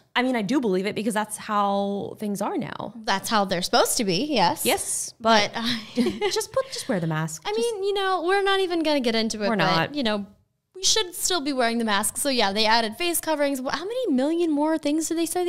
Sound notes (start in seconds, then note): 6.0 laughing